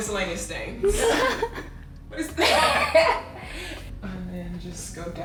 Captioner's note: laughter